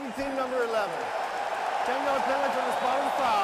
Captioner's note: cheering